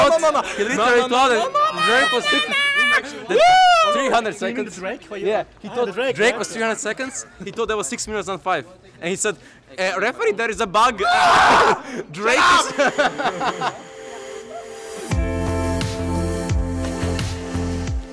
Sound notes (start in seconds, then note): 2.0 screeching incoherently; 11.0 screaming in the background; 12.2 laughing; 12.9 shouting